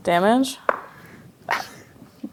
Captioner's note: dice rolling; sputters in disbelief